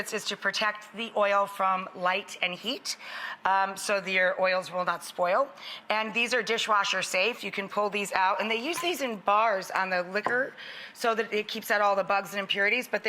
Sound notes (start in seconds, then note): none